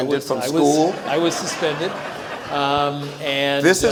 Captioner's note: audience laughs